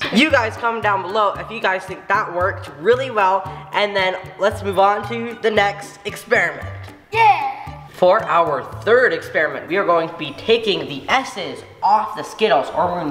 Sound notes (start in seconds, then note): none